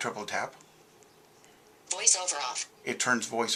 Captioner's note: VoiceOver - Synthesized Speech